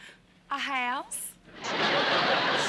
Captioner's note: laughter